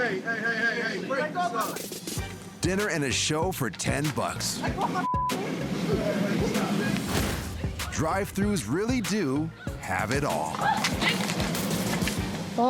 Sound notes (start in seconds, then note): 5.0 beep; 10.6 person screams